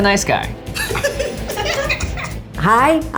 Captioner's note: laughs